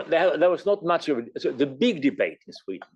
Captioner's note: laugh